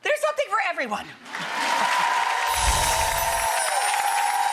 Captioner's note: applause